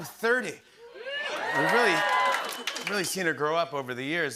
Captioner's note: cheers and applause